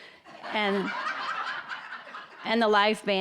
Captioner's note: audience laughing